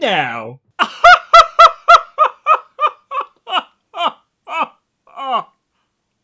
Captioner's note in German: imitiert das Dingo-Lachen